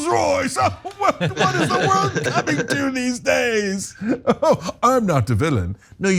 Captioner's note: laugh